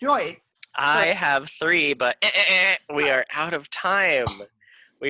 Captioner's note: buzzer sounds